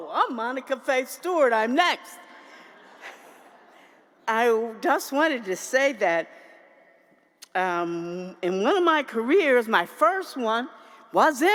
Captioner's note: laughter